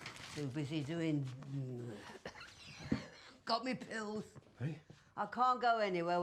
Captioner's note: coughs